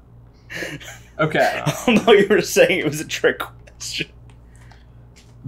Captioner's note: laughing